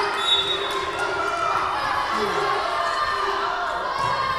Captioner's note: whistle blowing